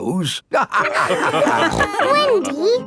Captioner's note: all laughing